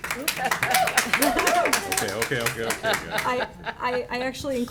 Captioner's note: applause